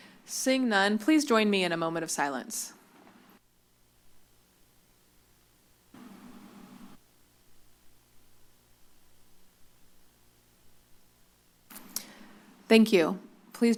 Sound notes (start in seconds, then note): 2.8 silence